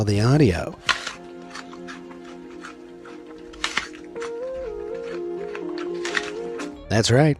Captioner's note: carrot bite crunches